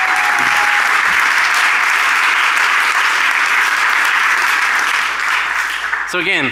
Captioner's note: applause